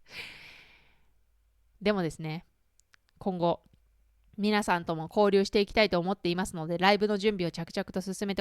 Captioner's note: laughs